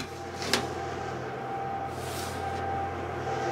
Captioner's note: oven humming, clinking